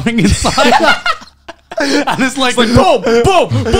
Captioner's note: laughs